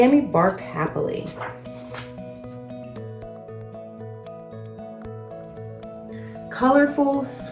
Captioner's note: uplifting instrumental music; pages shuffles